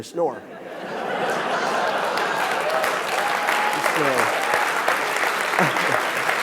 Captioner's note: audience laughing; audience clapping